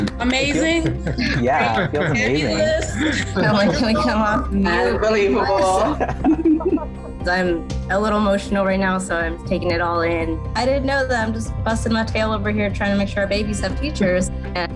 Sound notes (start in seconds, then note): 3.6 group laughing